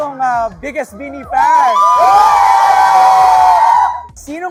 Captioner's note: loud cheering